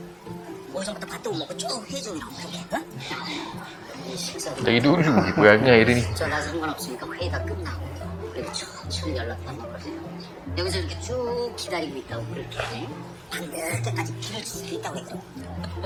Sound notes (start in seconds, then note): 6.4 chuckled